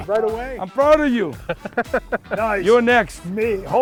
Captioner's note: laughs